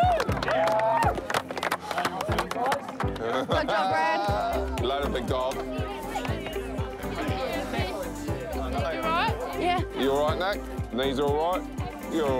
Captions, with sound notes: - (LAUGHS) - Good job, Brad. - Later, Big Dog. (LOW CHATTER) You right? - Yeah. - You all right, Nick? Knees are all right?